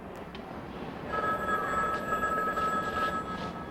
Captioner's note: phone ringing